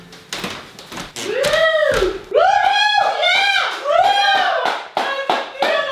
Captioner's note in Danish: Nogen der jubler